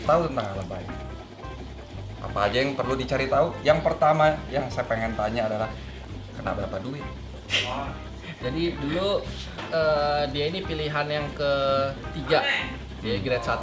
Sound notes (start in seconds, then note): 8.1 chuckles